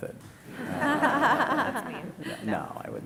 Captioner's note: laughter